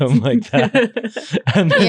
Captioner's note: laughing